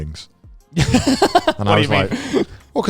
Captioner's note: laughs